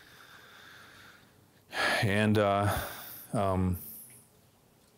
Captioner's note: sighs